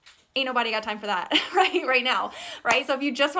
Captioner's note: laughs